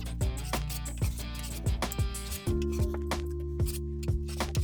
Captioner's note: tool scraping; gentle music